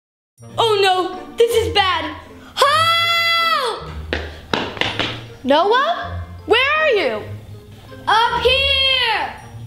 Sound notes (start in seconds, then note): 3.8 footsteps approaching